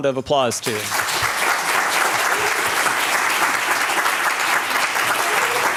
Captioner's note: applause